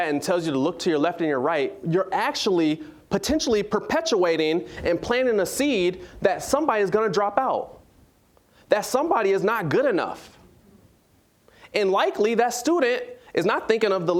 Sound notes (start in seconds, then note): none